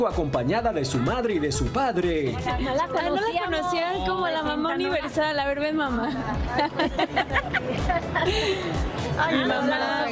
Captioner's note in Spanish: risas